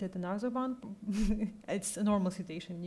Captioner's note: laughs